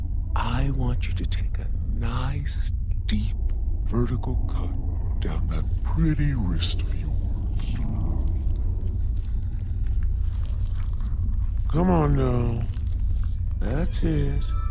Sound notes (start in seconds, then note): 7.3 squishing